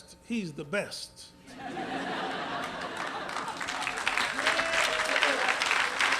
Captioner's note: laughter